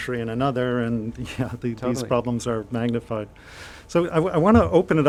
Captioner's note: chuckles